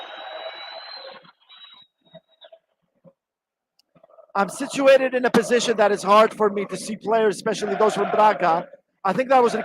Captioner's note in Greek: Χειροκροτήματα